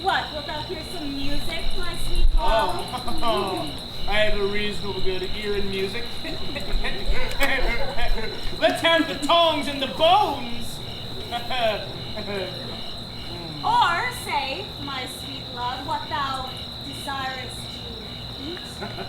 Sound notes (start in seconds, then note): 0.0 audience laughs; 3.7 laughs; 7.9 laughs